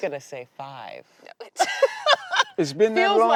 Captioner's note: laughing